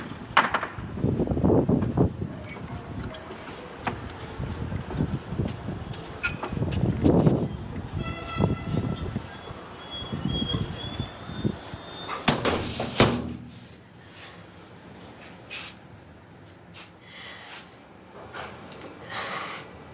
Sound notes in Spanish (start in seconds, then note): 12.3 sonido de patada golpeando puerta; 16.7 gemidos